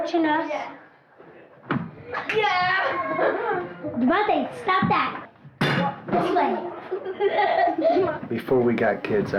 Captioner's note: kids playing, laughing and making noise